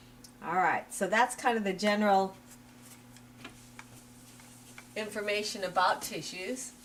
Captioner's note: pause